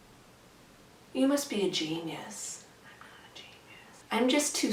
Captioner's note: whispering